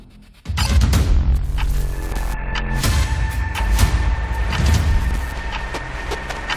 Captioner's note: ticking